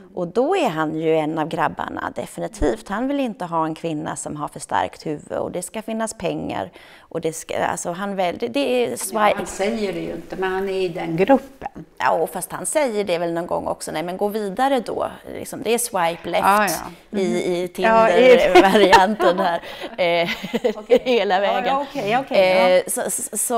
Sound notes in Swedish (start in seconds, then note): 18.4 skratt